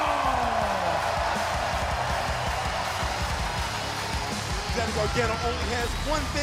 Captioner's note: crowd cheering